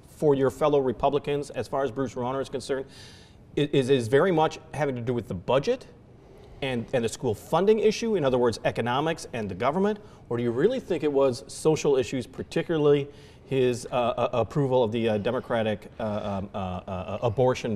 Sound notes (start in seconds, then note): none